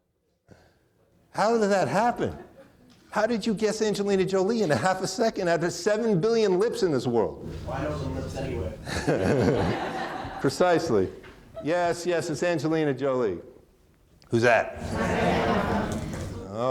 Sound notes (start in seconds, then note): 8.8 laughs; 8.8 audience laughing